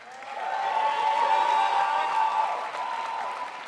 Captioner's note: crowd applauds